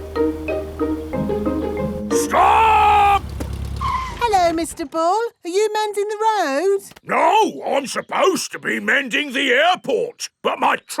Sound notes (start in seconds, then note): 2.2 brakes squeal